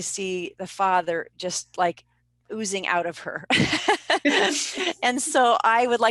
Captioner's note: laughing